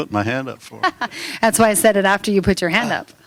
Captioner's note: laughter